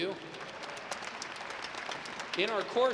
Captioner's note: audience clapping